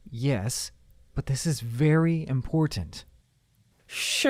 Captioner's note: none